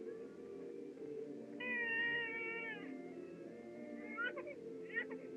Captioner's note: baby Crying